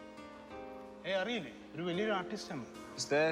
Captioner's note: speaking foreign language